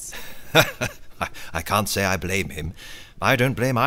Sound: laughs

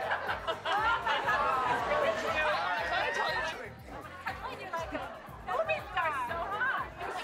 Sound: laughter, chatter

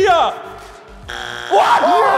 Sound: buzz

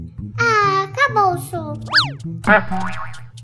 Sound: sliding whistle sound

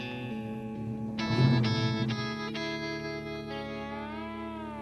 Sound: engine revving

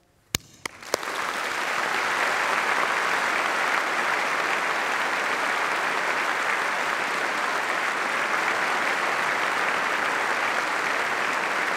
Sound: applause

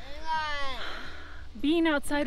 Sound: childish babbling; exhales

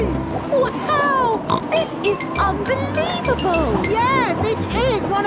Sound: snorts

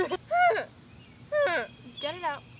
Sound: voice crack

